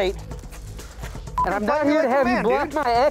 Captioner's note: beep